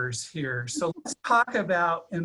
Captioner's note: multiple people laughing